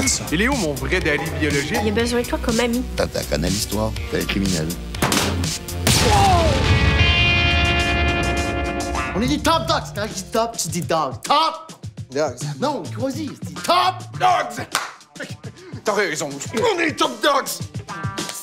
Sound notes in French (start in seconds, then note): 5.8 explosion